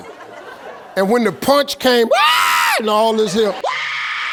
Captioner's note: screams